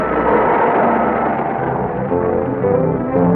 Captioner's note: suspenseful music; serpent screeches; suspenseful music intensifying